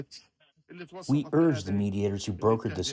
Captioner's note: through translator